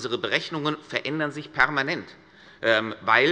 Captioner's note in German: none